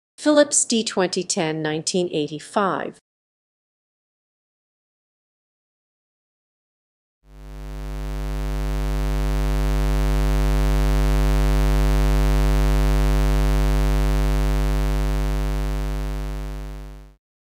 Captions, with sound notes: Philips D2010, 1985. [Square wave sound]